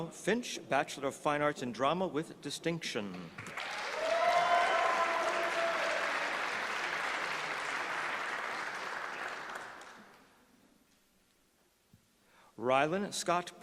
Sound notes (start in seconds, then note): 3.3 applause